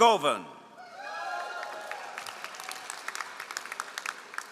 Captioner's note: all applauding